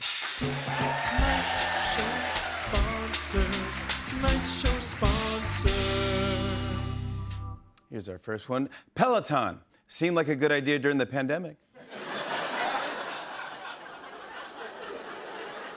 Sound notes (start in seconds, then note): 11.8 laughter